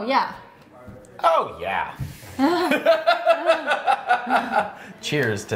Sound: laughing

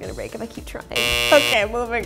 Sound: buzzer sounds

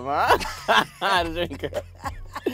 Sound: laughing

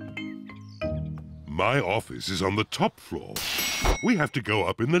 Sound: elevator bell dings

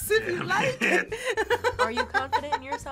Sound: laughs

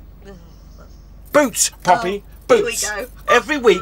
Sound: shouting

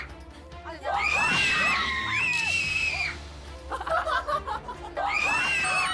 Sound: the three girls & are roaring like a lion

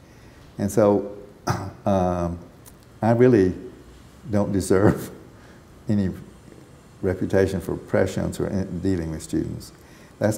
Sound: chuckle

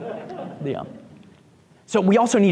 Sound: group laughs

